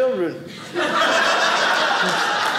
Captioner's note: audience laughing